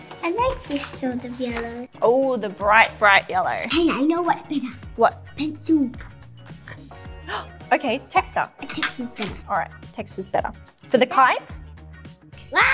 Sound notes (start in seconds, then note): 6.8 gasps